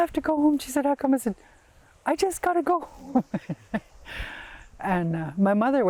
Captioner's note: laughs